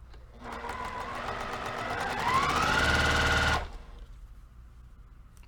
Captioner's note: sewing machine rattling